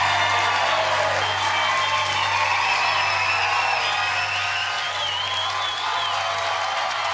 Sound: applause

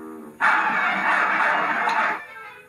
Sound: barking

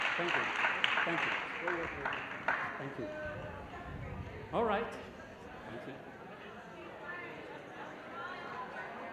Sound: applause

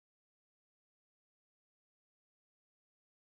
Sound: none

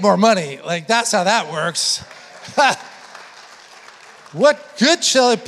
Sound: congregation applauding

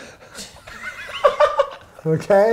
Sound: laughs

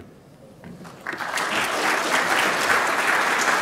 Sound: applause

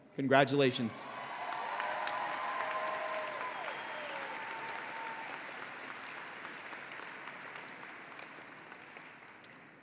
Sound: applause

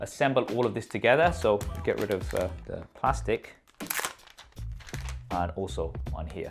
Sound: plastic crinkling

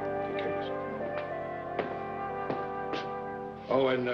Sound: upbeat classical music; footsteps banging

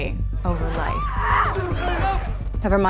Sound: screaming

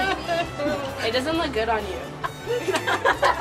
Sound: sobs softly; girls laugh

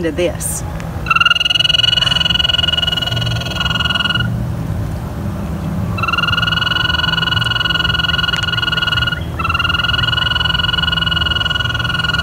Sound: toads trilling

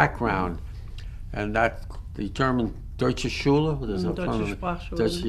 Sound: german

